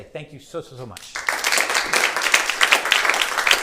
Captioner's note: applause